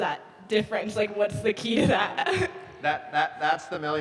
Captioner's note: chuckles